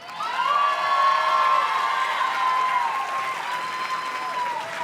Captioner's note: audience cheers and claps